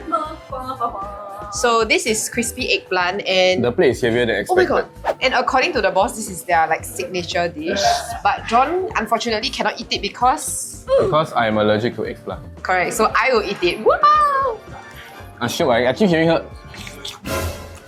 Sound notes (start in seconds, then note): 16.6 nom nom nom